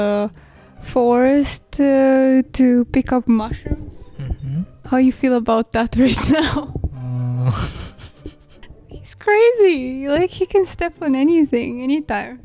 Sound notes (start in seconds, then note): 7.4 giggling